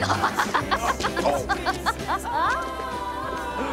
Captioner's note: Cassie laughs; Nicolas grunts